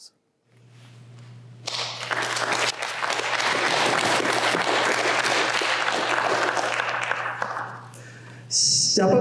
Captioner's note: applause